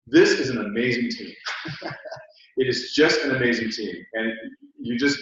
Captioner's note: laugh